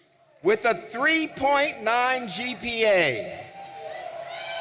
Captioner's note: audience cheering